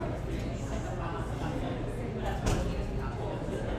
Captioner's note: audience chatter